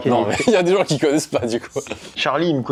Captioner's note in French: rires